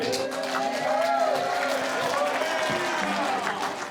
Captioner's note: cheering, applause